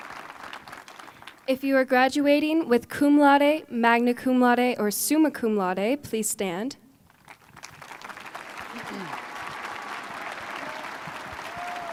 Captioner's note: applause